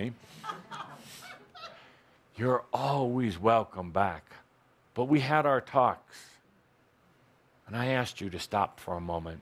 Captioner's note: some laughter